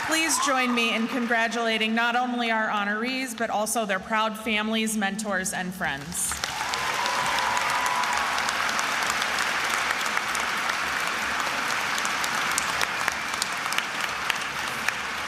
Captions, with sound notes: Please join me in congratulating not only our honorees, but also their proud families, mentors, and friends. (attendees applauding)